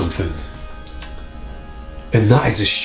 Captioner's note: lips smacking